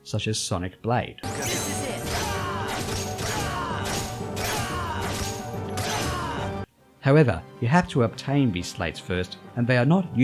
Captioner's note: Sora and Vexen make combat sounds